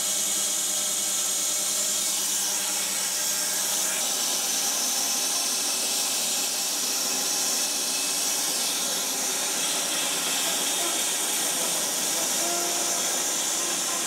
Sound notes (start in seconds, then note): 0.8 saw whirring; 8.2 saw whirring